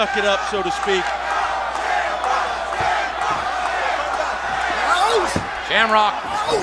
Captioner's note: crowd chanting "Shamrock!"